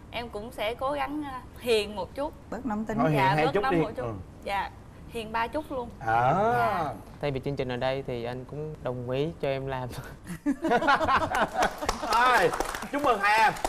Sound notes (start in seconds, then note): 10.4 laughing